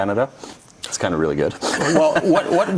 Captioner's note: laughs